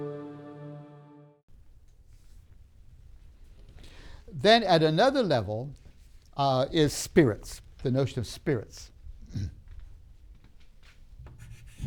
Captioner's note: clears throat; writing sounds